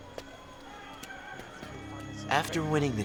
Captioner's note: rooster crowing